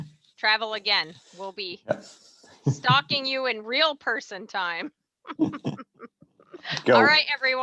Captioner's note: laughs